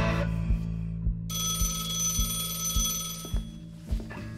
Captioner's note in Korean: 전화벨 소리